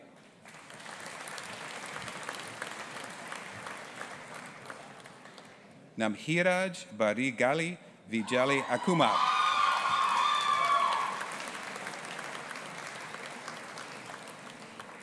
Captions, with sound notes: (AUDIENCE APPLAUDING) Nabhiraj Barigali Vijayakumar. (AUDIENCE APPLAUDING AND CHEERING)